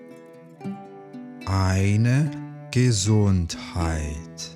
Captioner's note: german